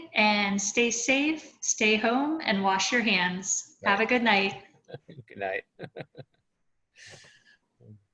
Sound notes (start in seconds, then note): 4.9 chuckles